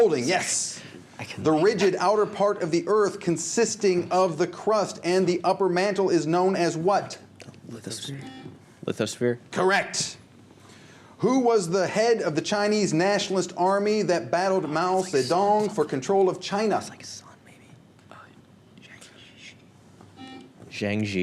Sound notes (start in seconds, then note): 7.3 whispers; 8.1 buzzer; 16.7 whispers; 20.1 buzzer